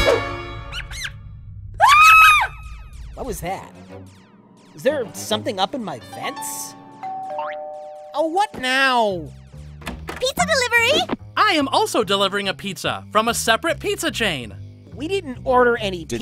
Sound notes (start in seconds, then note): 0.1 squeaking; 1.8 screams; 7.0 doorbell rings